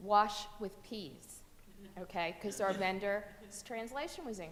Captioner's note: laughter